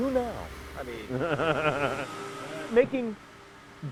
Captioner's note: laughter